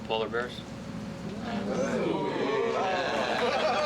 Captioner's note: laughing